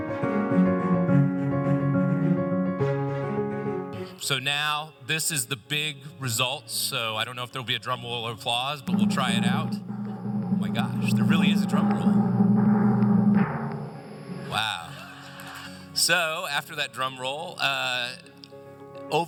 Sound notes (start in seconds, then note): 8.8 drumroll; 15.0 laughter